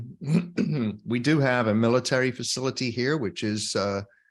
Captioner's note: clears throat